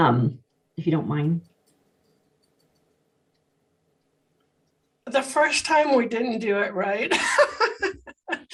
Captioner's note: laughter